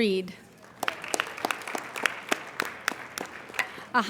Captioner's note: applauding